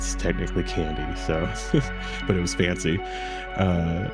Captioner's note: laughs